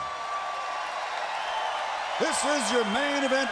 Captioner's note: crowd cheers